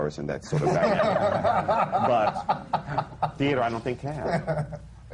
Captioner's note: laughter